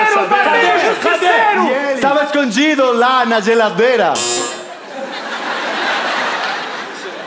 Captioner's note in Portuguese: campainha